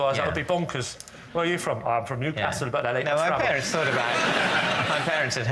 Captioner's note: laughter